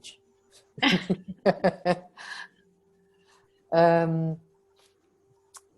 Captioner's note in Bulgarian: Смях